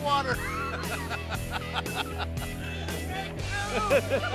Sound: laughter

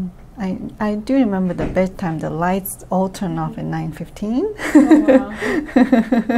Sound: laughs

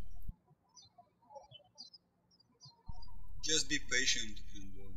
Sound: birds chirping

